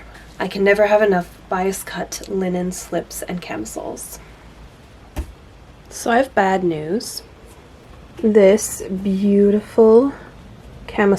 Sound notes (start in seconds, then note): none